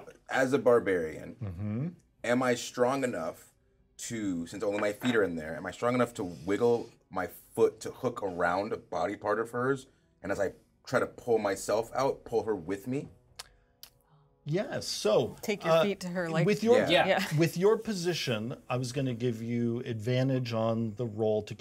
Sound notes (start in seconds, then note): 17.4 chuckles